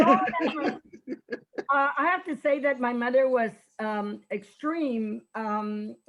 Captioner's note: laughs softly